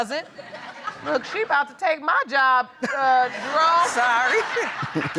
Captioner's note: audience chuckles; audience laughs; laughs; chuckles